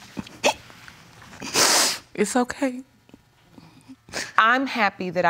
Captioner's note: hiccups; sniffles